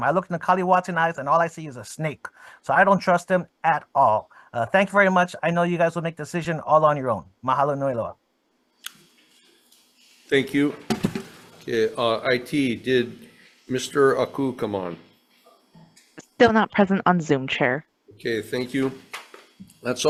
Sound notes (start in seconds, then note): 7.5 speakings foreign language